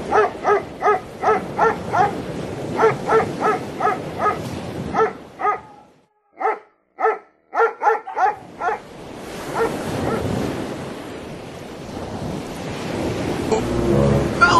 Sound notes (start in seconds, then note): 0.1 barking; 7.5 barking Continues